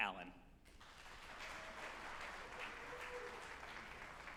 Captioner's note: group applauding